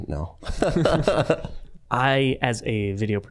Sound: all laughing

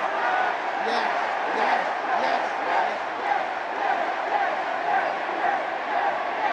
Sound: chanting

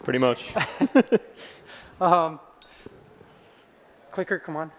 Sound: laughter

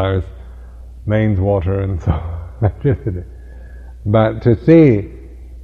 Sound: laugh

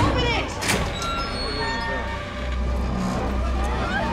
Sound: door squeaks; people shouting

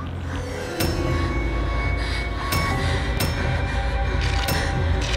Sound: breathing heavily

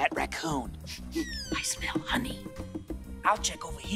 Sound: sniff

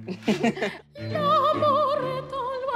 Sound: they laugh

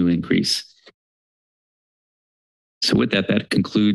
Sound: silence

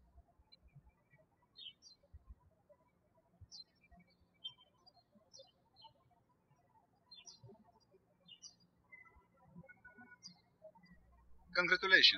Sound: bird chirping

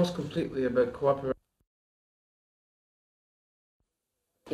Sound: break in audio

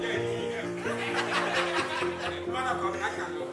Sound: laughter

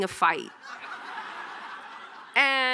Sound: audience laughing

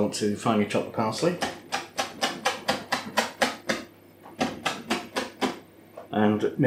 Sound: chop chop chop chop chop

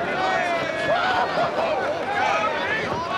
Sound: cheering

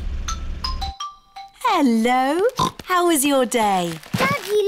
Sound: oinks

